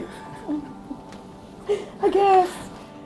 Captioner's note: laughing